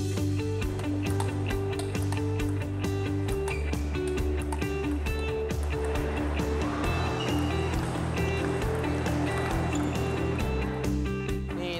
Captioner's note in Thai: เสียงตีปิงปอง